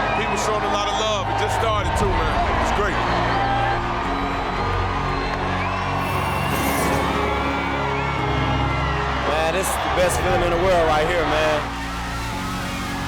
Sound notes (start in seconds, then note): 3.6 crowd cheering; 3.6 fire whooshing